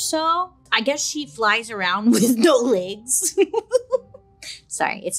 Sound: laughing

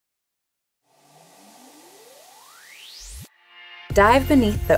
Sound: swooshing

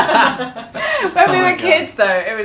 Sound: laughing

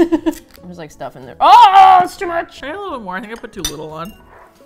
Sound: laughs; guttural yell

